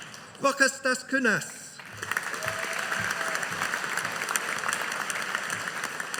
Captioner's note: audience applauding